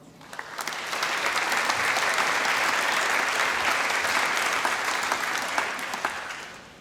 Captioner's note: applause